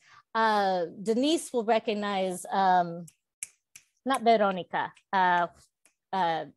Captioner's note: snaps fingers